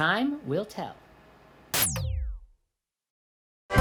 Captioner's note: power down noise